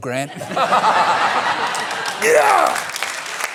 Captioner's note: laughter; applause